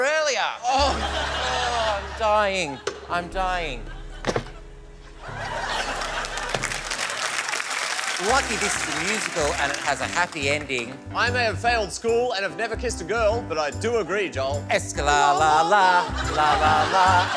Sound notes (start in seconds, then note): 0.6 groans; 5.8 applause